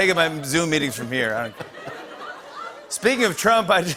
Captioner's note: laughter